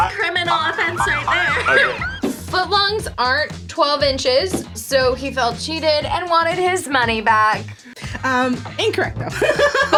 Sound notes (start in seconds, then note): 0.4 laughs; 1.9 sirens blaring